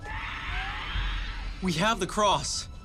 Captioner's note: creatures screeching